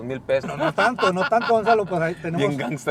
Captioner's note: laughter